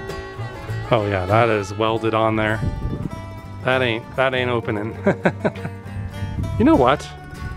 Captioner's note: laughter